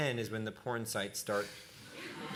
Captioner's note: laughter